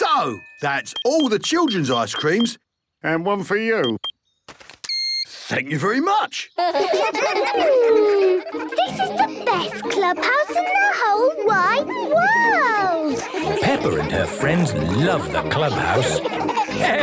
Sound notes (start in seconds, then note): 5.1 beeps; 6.5 children giggling